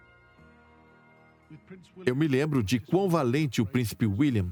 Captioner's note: voiceover